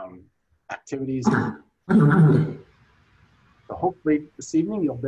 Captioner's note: clears throat